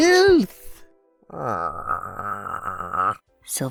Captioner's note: utter filth groans, dazzlingly